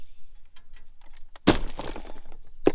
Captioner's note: wood thudding